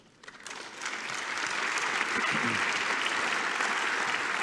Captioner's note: applause